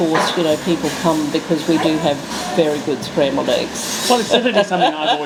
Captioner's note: laughs